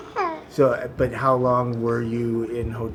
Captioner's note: child sneezing